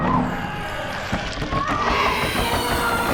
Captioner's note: creature groans, cries